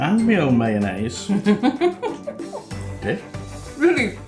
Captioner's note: disbelieving laughter